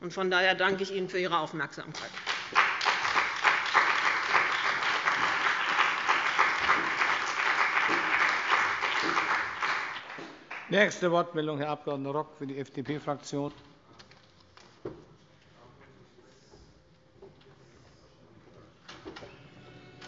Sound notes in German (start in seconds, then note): 5.0 Beifall bei dem BÜNDNIS 90/DIE GRÜNEN und der CDU